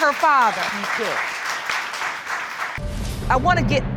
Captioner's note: applause